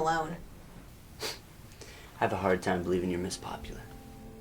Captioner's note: scoffs; sniffs derisively; tender music